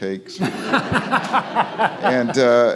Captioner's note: Francis laughs; audience laughs